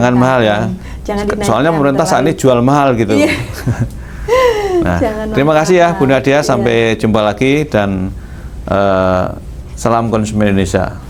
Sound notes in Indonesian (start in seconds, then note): 4.3 tertawa